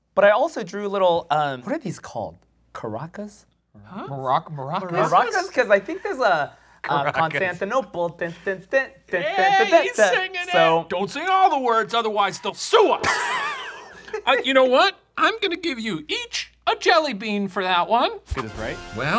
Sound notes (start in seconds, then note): 8.1 humming tune; 13.0 laughs